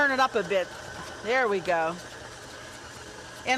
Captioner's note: rapid beating